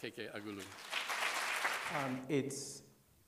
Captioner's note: applause